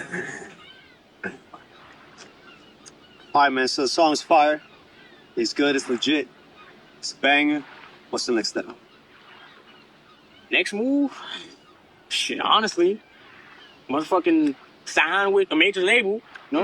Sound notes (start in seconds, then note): 0.5 seagulls and ocean background noise; 9.3 wind and oceans background sounds